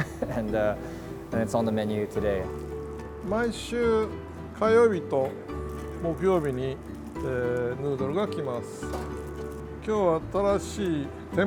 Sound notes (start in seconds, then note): 3.6 speaking in Japanese language